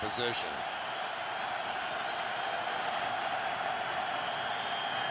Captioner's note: cheers